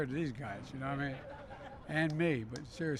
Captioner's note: laughter